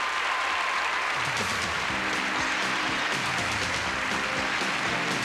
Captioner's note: applause and cheering